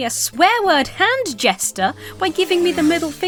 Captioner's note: car engine roars